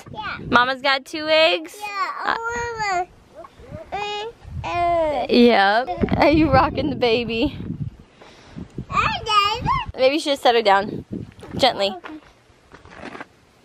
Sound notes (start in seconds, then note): 3.3 babbles